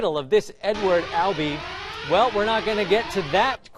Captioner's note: siren